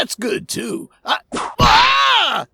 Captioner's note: whip crack!